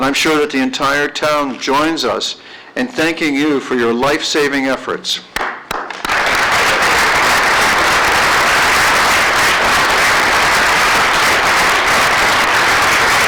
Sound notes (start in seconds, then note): 7.5 applause